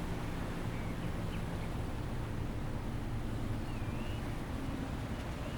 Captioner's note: birds chirping and squawking